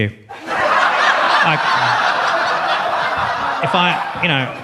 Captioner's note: audience laughs